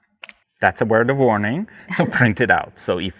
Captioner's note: laughing